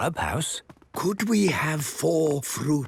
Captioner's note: speaking quietly